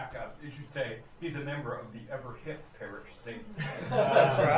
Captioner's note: laughing